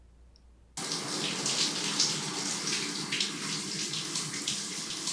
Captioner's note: water running